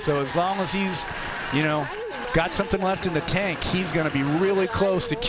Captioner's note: applause